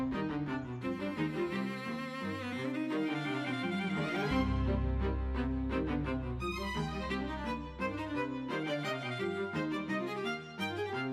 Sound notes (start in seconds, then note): none